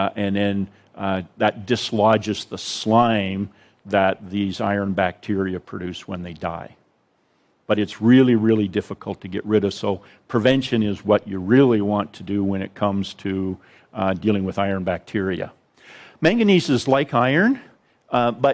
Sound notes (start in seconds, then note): none